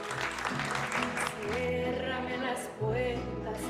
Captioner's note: applause